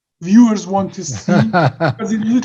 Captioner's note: giggles